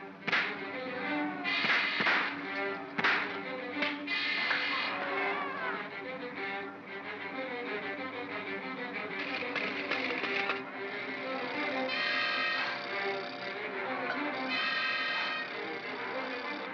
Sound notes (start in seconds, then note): 1.5 loud pops; 2.9 crack; 5.2 suspenseful music; 9.3 propeller clatters & whirrs; 12.2 propeller whirrs; 12.2 suspenseful music